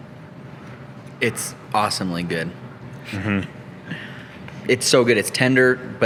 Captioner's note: laughs